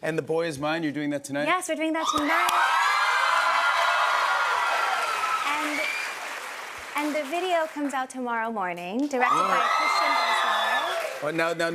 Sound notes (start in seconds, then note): 2.0 cheers and applause